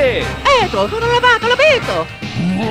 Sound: italian gibberish; evil laughter

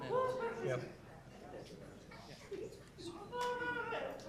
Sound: group chatter

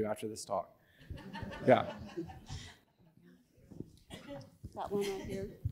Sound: audience laughing

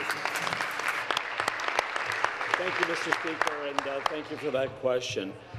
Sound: applause

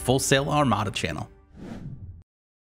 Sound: whooshing

